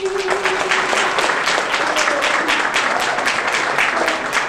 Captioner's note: audience clapping